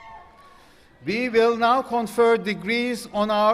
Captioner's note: applause